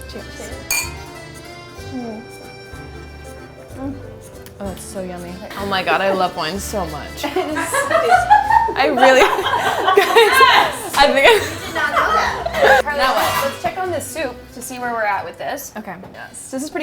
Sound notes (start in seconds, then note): 9.9 laughter